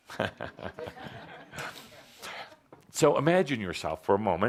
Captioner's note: laughter, chuckles